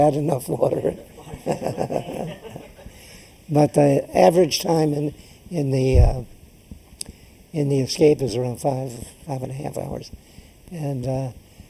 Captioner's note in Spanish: laughs